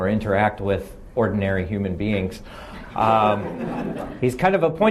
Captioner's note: laughing